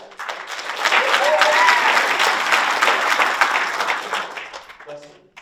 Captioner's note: audience applauds and cheers